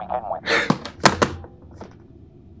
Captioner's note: Ludlow slams the phone down